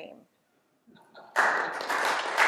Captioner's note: laugh; applause